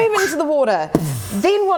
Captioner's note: boosh